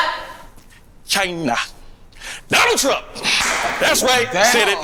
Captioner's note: clapping